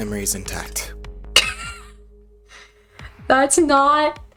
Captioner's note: wheezes